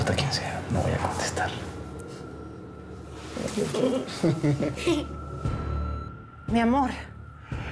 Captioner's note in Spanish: risas